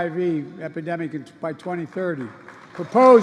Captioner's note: applause